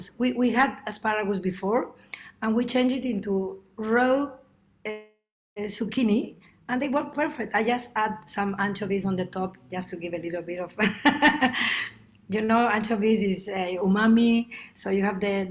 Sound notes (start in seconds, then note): 11.0 laughs